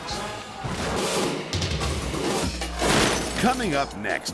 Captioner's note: intense music; glass shattering